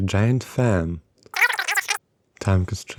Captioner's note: teammate talking through the phone